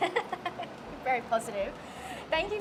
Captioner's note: laughs